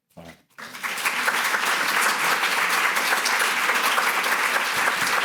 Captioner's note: audience applauding